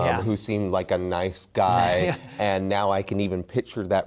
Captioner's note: laughter